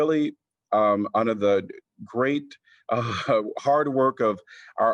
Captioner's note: laughter